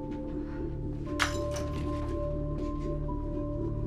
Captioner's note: shattering